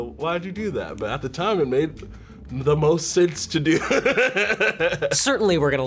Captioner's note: laughs